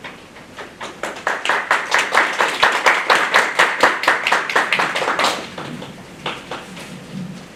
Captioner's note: applause